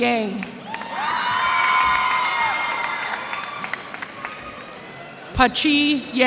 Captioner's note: cheers and applause